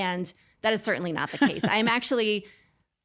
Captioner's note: laughs